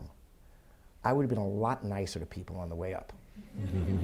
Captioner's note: audience laughs softly